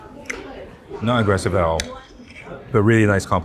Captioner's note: utensils tap; people chatter; lips smack